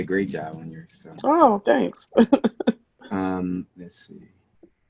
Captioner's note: laughs